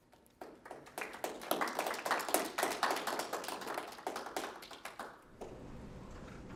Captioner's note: applause